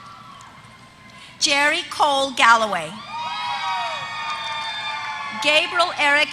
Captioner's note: applause